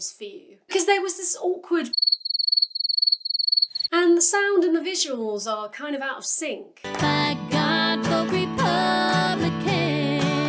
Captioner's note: crickets; singing